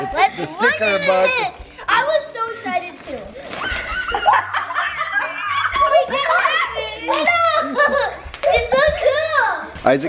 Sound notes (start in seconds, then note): 3.4 laughing; 3.7 squealing